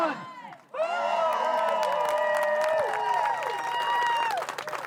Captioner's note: cheers